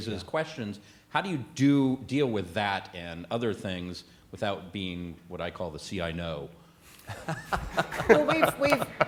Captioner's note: laughter